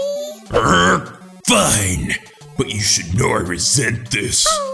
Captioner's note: growls